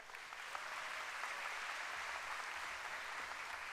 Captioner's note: applause